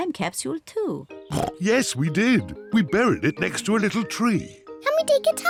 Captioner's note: oinks